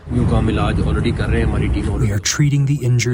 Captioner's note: through translator